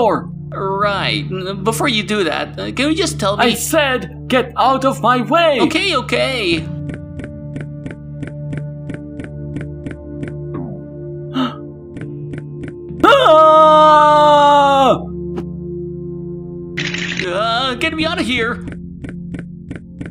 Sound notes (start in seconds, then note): 11.4 gasp